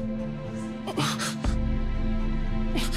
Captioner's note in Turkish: Mehmet Ali inliyor